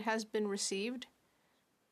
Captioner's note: speaking French